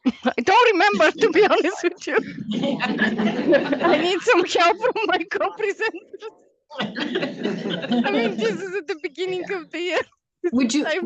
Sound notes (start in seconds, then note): 0.0 laughs; 3.9 all laugh